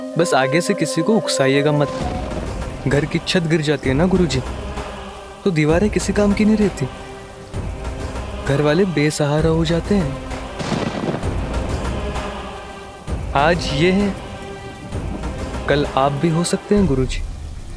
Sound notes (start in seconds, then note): 10.5 thunder rumbling